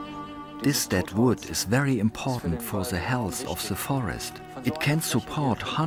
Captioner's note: in German